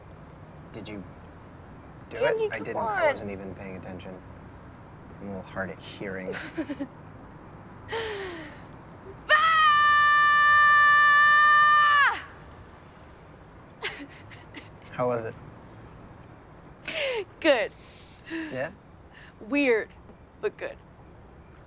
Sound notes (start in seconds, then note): 7.9 inhales; 9.3 loud, long yell; 13.8 chuckles